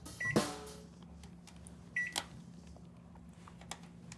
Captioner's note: microwave beeping